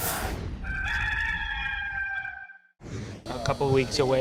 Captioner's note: rooster crowing